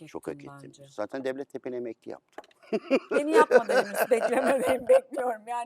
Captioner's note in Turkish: kahkaha